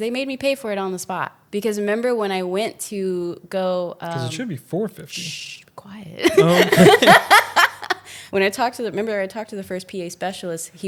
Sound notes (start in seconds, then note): 6.2 laughs